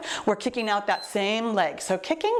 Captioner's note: timer beeps